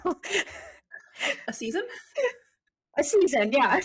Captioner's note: both laughing